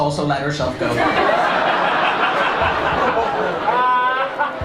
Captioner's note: laughter